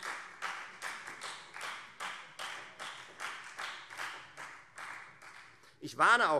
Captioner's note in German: Beifall Freie Demokraten